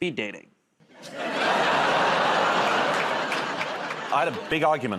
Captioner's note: laughter